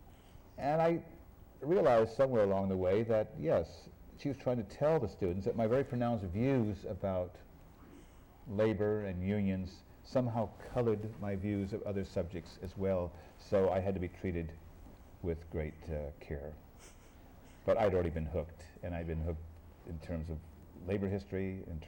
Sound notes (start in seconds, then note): 16.8 laughs